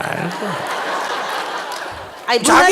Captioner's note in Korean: 청중 웃음